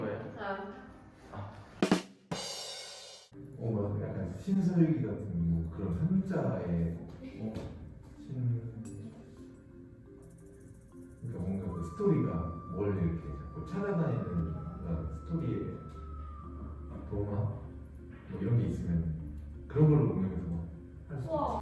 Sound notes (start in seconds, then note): 1.8 drumming sound effect; 7.4 background Music - Music like exploring the jungle; 18.3 background music - Music like exploring the jungle